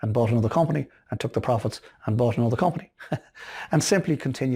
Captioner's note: laughing